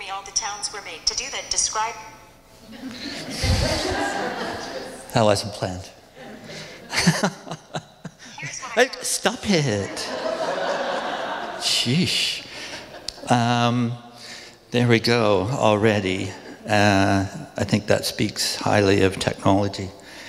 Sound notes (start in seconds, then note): 2.6 audience laughs; 6.2 laughs; 9.7 audience laughs